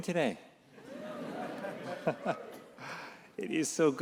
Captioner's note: attendees murmuring